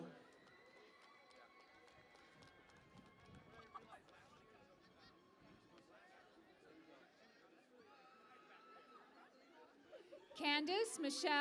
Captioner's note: cheering and Applause